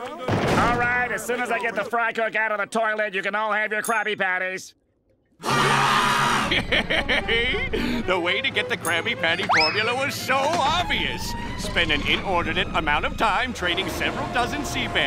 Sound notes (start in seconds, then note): 5.4 screaming; 5.4 laughing